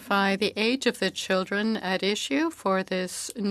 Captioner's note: speaking French